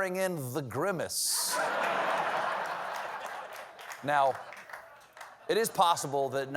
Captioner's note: laughter; applause